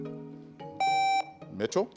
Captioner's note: contestant beeping